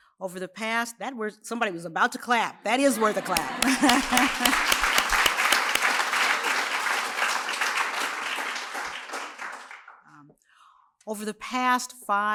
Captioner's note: laughs; applause